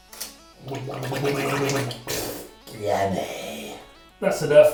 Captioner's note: gargles